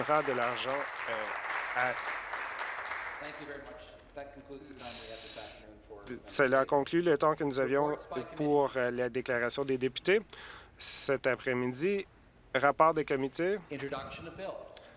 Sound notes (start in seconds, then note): 0.0 applause